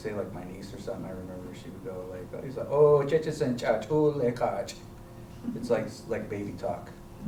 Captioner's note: non-english speech